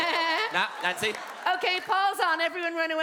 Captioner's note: weird manic laughin